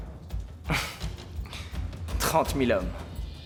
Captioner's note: chuckles